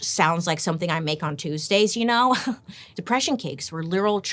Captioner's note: laughs